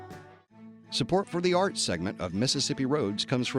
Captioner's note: voiceover